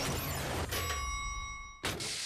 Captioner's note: dinging